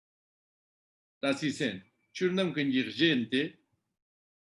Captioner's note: tibetan